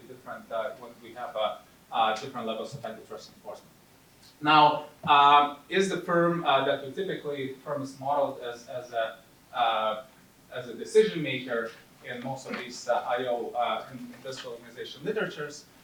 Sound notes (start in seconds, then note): none